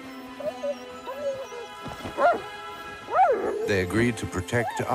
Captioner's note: barking